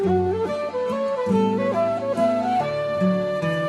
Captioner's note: none